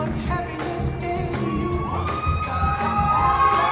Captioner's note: cheering